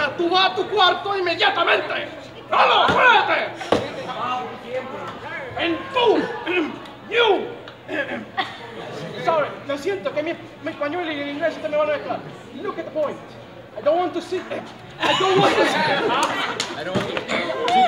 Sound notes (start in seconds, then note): 14.0 in a Hispanic-English accent; 15.0 everyone laughing